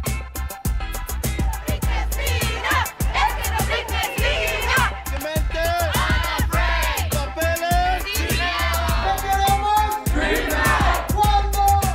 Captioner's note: chanting